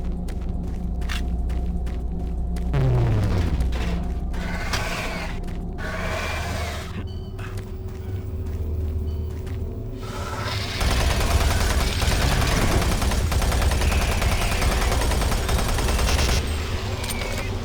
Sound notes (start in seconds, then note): 2.5 gunshots